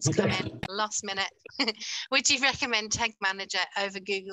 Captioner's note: chuckles